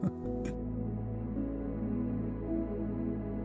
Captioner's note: chuckles